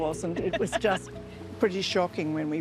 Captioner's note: laughs